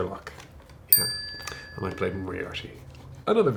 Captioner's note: bell chimes